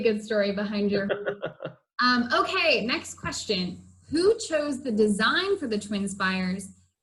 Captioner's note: laughs